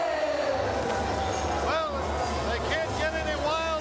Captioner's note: crowd cheering